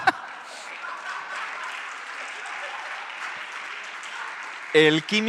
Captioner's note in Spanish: Aplausos